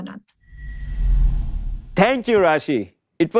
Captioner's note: air whooshes